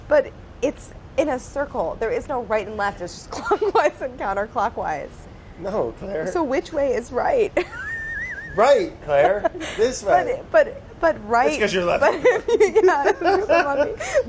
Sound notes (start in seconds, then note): 3.4 laughs; 7.6 laughs